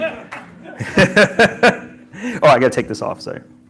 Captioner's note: laughs